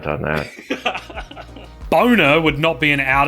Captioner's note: people laughing